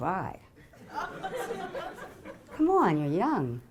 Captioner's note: audience laughing